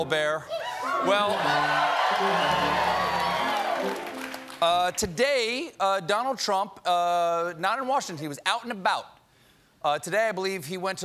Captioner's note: cheers